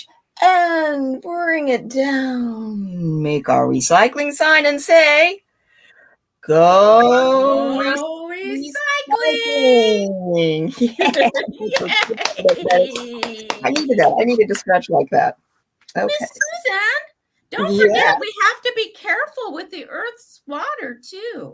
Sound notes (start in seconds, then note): 11.6 cheering; 11.6 clapping